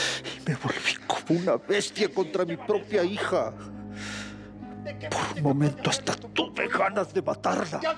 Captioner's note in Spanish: solloza